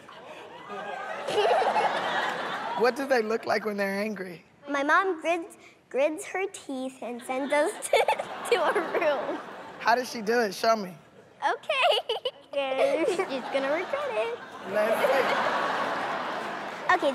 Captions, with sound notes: Yes! Yes! [ Giggles ] Oh, totally. [ Laughter ] What do they look like when they're angry? My mom grits her teeth and sends us [giggles] to our room. How does she do it? Show me. Okay. [ Giggles ] Okay.